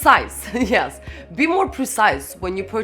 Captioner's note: laughs